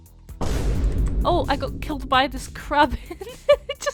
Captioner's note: laughs